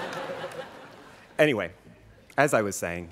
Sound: students laughing

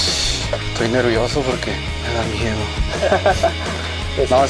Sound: ha ha ha

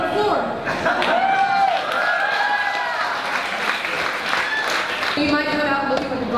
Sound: applause

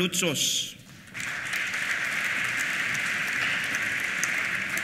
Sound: applause

